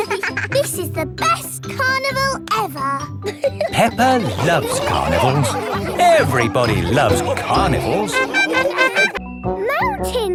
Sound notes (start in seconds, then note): 0.2 both giggling; 8.5 laughing